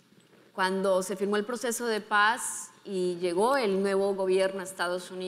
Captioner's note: speaking in foreign language